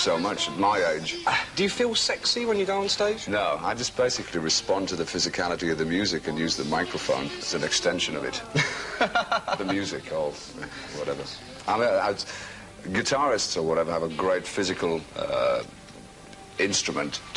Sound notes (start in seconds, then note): 8.1 laughs